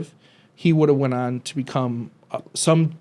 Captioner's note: none